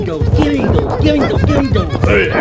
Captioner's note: Pipe the Clone whimpering